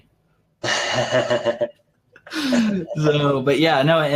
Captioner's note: laughs